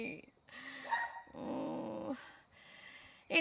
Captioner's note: sounding very sad; makes a sad noise; dog barks more